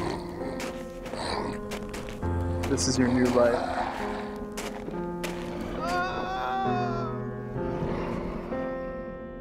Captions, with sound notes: (footsteps crunching) - This is your new life. (Roger moans)